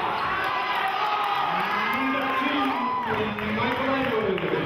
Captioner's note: cheering